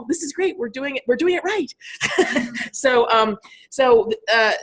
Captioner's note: laughing